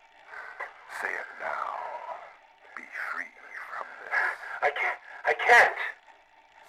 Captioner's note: coughing